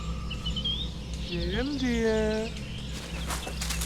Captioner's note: deep voice